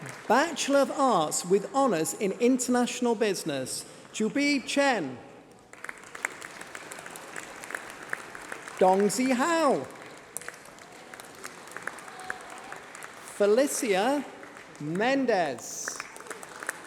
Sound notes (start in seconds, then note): 5.5 applause